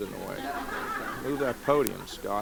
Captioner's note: laughter